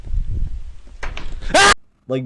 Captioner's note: screaming